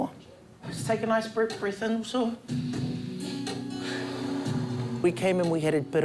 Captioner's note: both breathe deeply